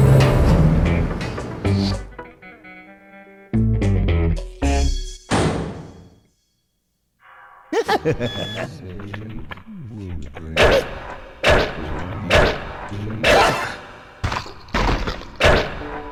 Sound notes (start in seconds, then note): 7.7 laughter; 10.3 knives whistling through air, unintelligible chanting